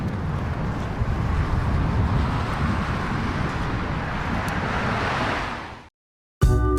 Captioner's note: ambient sounds, cars passing; downtempo, Lo-Fi music